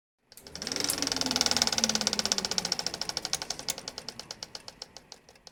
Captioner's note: film reel whirring